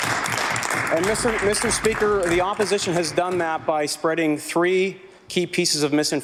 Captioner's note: some Applause